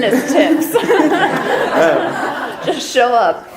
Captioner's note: audience laughter